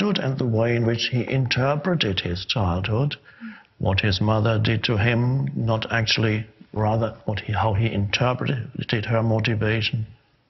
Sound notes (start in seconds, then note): none